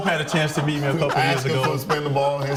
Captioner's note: laughter